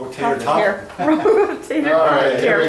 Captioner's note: laughs